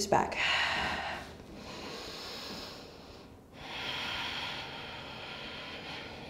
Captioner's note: heavy breathing